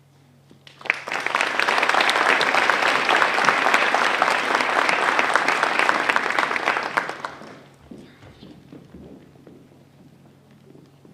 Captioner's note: applause